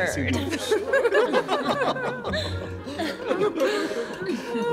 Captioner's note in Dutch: mensen lachen